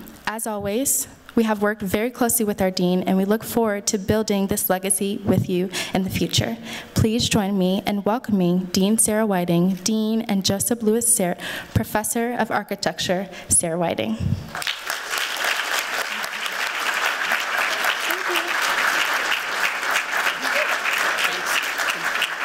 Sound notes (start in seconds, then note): 14.5 applause